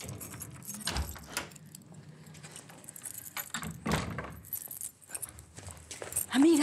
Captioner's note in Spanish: Sonido al abrir la puerta